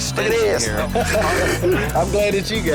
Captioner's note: lalaugughthterer